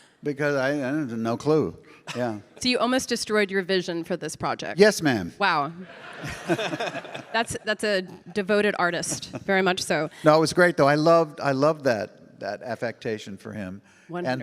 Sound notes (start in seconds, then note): 5.8 audience laughing